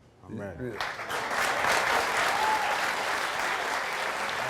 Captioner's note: audience applauds